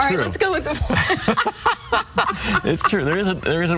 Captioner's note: laughs loudly